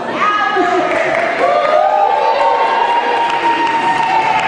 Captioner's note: cheering